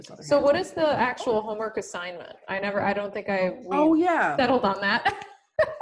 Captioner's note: laughter